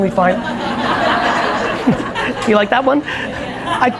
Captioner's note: audience laughs